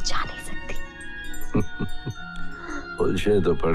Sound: chuckles

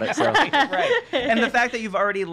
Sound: laughing

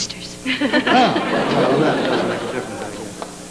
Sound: laughter

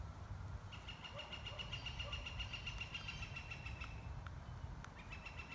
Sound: birds chirping

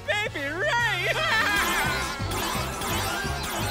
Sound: laughing

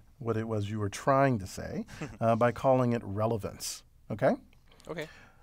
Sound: laugh

